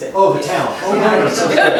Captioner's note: laughter